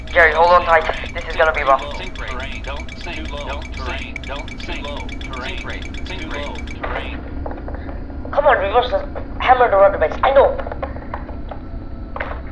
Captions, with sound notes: C/Jerry hold on tight this is gonna be rough. *plane touches down* C/Come on Reverses! C/hammer the rudder breaks! F/o I know!